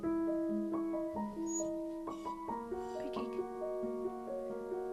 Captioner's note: Pancake whimpering